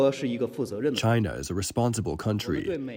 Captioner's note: through translator